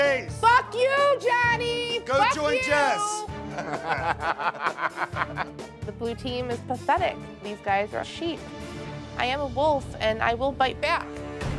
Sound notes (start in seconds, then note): 3.4 laughter